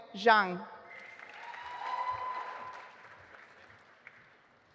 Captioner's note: audience applauding